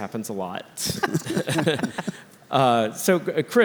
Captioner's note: laugh